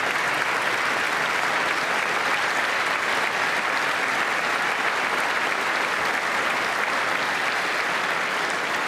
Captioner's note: applause